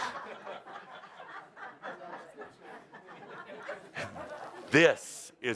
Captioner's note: laughter